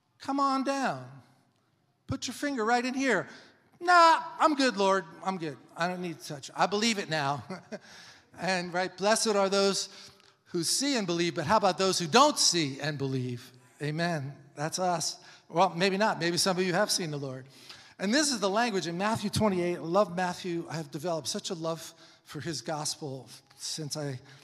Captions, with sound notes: "Come on down. Put your finger right in here." "Nah, I'm good Lord, I'm good. I don't need to touch." "I believe it now." (laughs) And right, blessed are those who see and believe, but how about those who don't see and believe? Amen. That's us. Well, maybe not. Maybe some of you have seen the Lord. And this is the language in Matthew 28. I love Matthew. I have developed such a love for his gospel since I